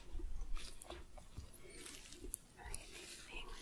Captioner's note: sticky sounds